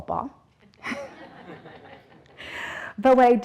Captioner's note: audience laughing